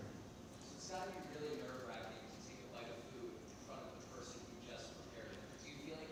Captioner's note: speaking softly